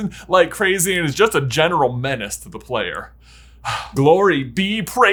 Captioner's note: sighs